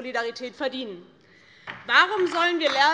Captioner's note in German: Beifall DIE LINKE